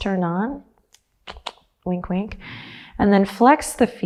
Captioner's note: clicks tongue